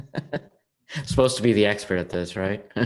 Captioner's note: laughing